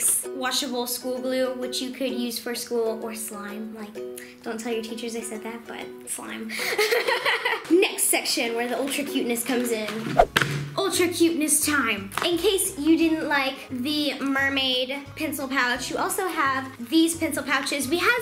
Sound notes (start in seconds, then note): 6.6 laughs